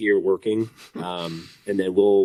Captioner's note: chuckles